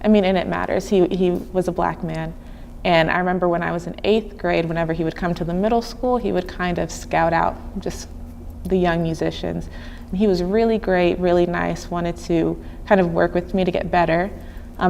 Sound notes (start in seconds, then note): none